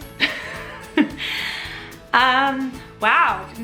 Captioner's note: laughing